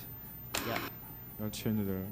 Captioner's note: static buzzing